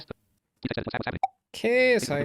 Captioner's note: JAWS speaking rapidly